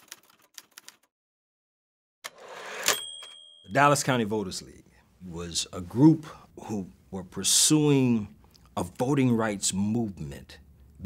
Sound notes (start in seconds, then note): 2.7 bell dings